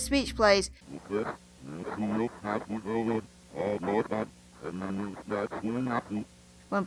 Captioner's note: reverse Speech